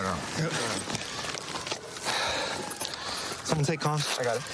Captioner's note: sirens blaring